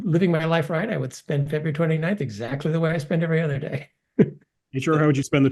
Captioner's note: laugh